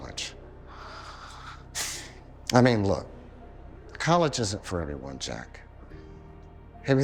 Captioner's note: sighs